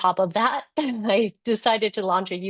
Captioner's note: laugh